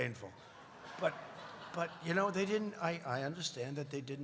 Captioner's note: laughter